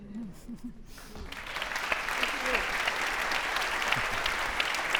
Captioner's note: audience applauding